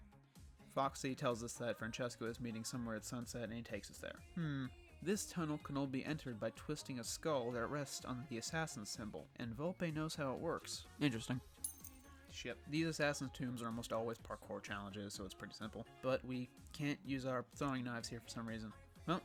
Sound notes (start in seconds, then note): 11.6 necklace Jingling